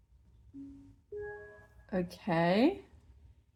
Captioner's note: start-up ping